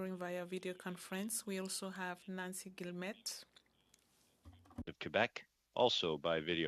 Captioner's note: speaking French